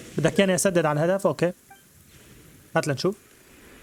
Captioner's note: water dripping